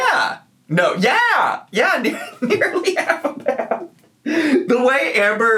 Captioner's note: laughs